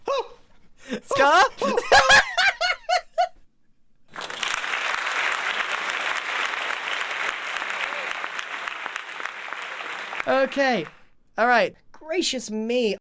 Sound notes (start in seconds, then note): 4.0 applause